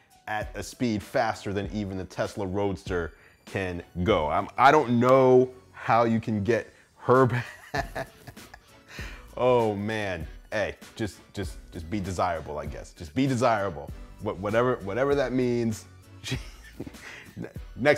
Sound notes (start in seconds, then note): 7.4 laughing; 16.2 chuckling